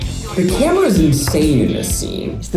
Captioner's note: claps hands together